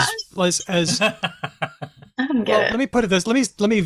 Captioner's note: laughs